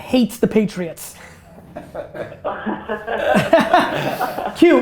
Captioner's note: group laughter